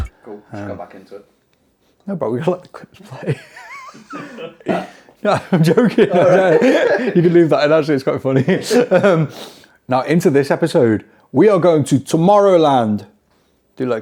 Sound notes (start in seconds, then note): 5.8 laughing; 9.3 laughing